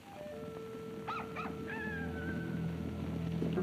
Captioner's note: cock crows; foreboding music